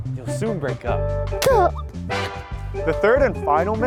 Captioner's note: crying